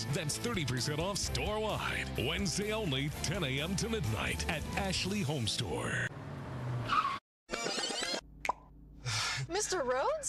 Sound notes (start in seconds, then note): 6.0 tires screech; 7.5 tape rewind; 8.4 pop